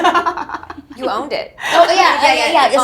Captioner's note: laughs